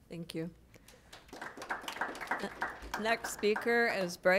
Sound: applause

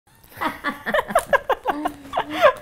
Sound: laughs in gossipy Spanish

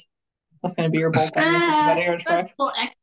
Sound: faintly speaking

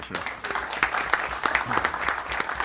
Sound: applause

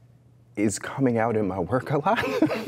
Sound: laughs

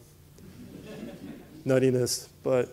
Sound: laughter

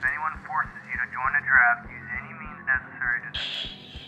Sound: radio broadcast

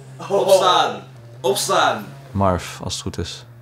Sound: yelling

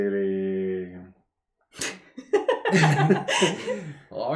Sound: laughter

